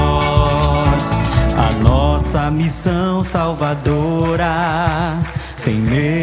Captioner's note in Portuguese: Palmas